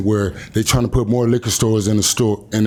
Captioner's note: none